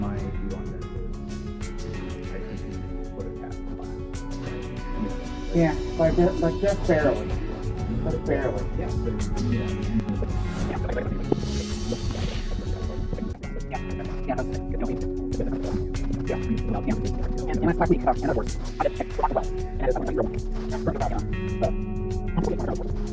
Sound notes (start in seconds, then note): 10.0 fast forwarding